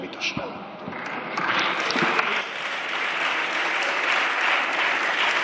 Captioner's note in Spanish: Aplausos